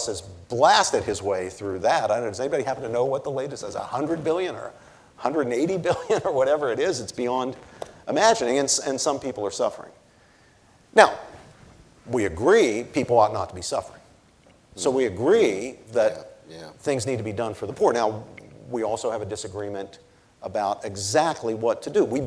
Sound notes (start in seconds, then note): 5.8 chuckles